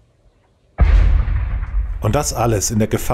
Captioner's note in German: Schüsse